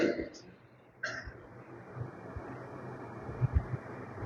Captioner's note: he clears his throat